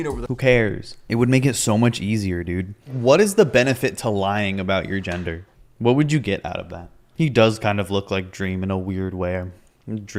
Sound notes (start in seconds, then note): none